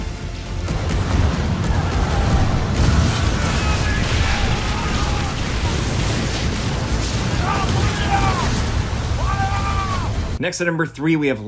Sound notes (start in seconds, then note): 0.8 cannons firing